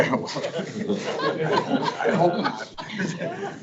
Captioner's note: board members laughing